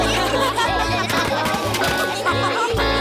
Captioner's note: laughter